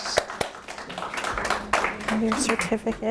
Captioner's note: applause